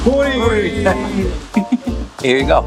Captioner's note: people chuckling